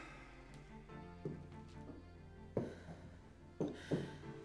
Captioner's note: Graham sighs